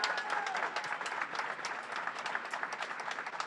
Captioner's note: clapping